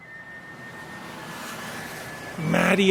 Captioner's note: sirens blaring